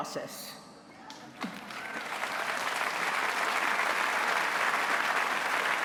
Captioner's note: applause